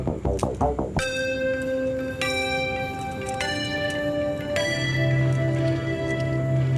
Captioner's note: victory Bells Chimbing